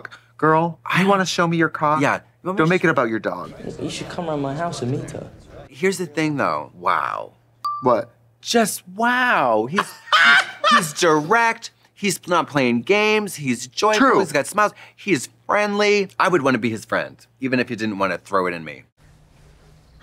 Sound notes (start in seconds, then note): 7.6 pause chime dinging; 10.6 Trixie guffawing